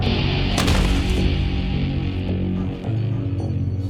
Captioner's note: body thumps